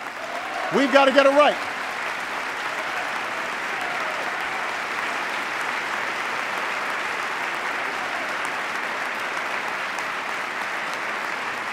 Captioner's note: applause